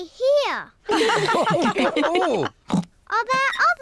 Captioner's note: all laugh